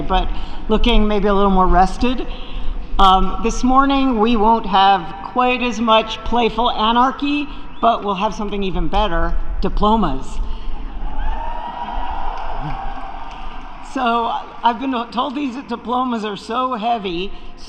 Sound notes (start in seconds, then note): 11.8 applause